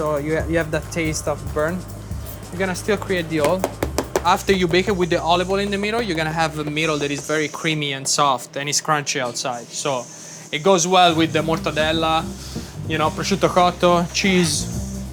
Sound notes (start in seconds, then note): 3.5 pizza cutter thudding